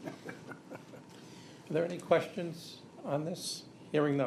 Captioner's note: laughter